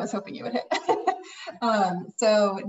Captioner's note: laughing